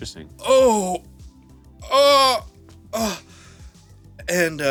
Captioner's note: groans